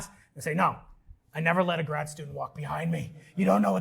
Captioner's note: gruffly